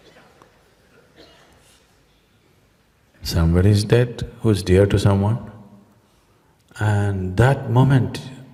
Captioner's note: laughter